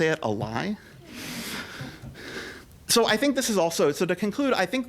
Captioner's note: laughter